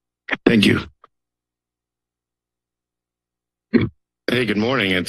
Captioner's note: silence